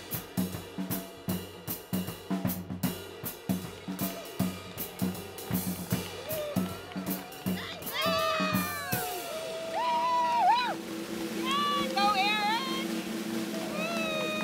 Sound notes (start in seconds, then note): 0.3 lively drum music; 7.0 people cheering